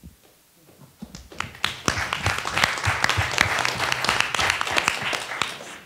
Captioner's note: attendees applauding